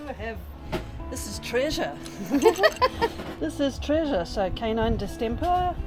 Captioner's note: laughing